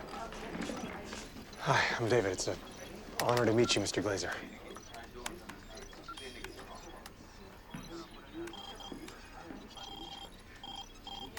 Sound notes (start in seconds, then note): 4.5 keys clacking; 4.5 monitor beeping; 9.5 steady beeping